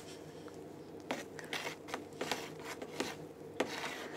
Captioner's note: scraping, scratching noises